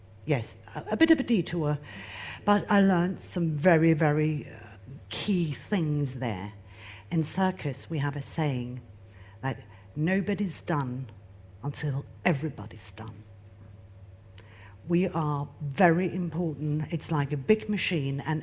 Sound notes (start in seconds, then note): none